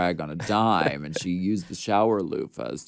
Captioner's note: Courtney laughs